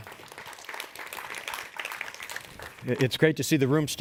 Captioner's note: audience applauds